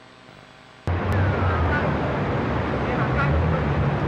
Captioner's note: japanese traffic ambiance